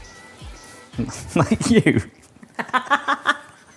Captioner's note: both laughing; chuckles